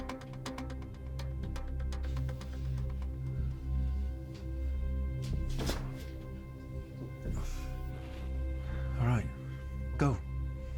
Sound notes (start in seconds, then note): none